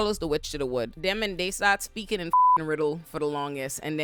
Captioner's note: beep